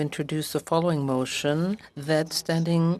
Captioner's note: speaking French